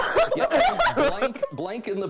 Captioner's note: laughing